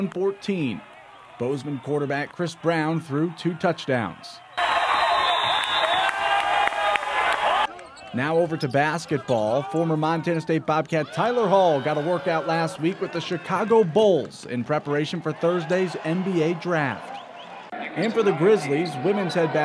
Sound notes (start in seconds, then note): 8.3 cheering